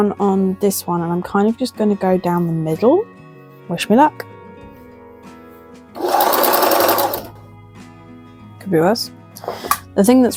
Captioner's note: sewing machine noises